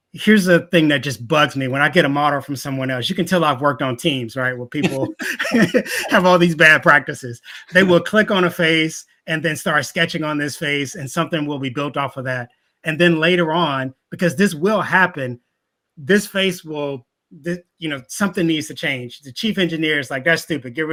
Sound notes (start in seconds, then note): 4.8 laughing